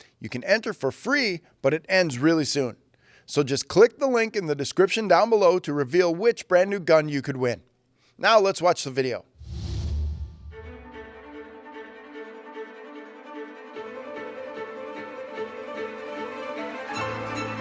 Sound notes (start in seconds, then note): 9.4 air whooshes